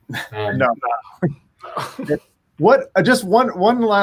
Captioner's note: chuckles